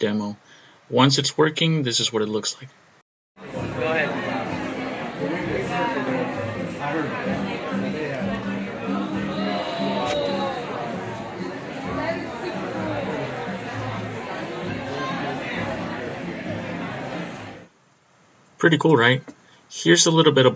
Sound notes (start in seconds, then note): 3.4 chatter